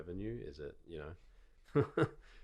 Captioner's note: chuckling